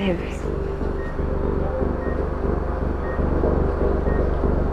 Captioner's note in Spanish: Pitidos